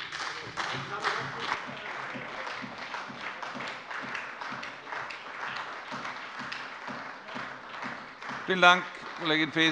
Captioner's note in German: Beifall bei der SPD